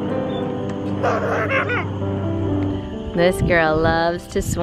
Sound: laughs

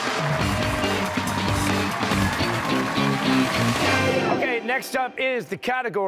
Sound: cheers and applause

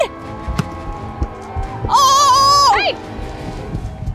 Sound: cheering

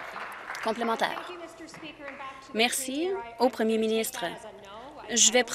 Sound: applause

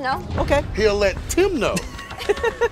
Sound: laughing

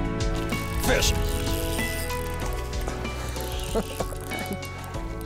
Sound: laughs

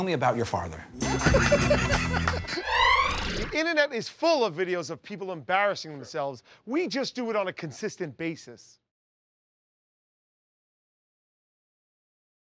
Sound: laughter

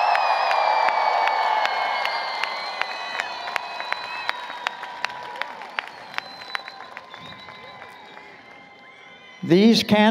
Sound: applause, Cheering

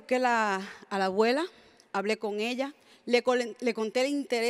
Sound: speaks in Spanish

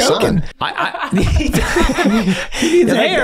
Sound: all laughing

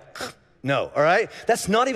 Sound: gagging

